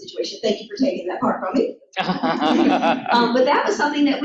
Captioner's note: laughter